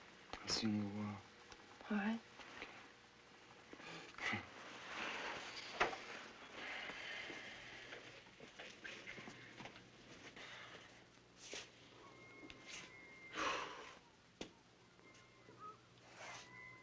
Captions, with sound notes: I'll see you in a while. - All right. - Okay. (chuckles) (exhales)